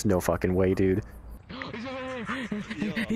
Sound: gasp; hyperventilating

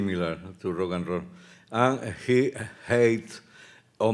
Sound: speaking Spanish

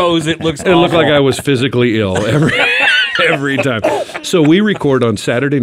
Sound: laughs

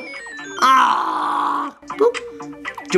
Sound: groans

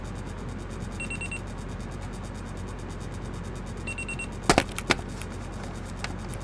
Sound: alarm Beeping

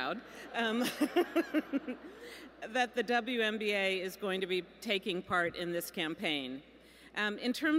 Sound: laughs

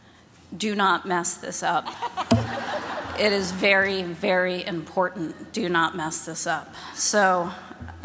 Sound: laughter

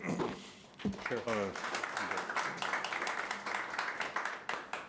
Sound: audience applauding

